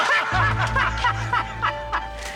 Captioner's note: Bridges and Dominguez laugh